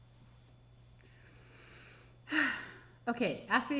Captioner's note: sighing